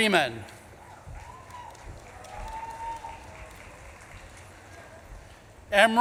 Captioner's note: audience claps and cheers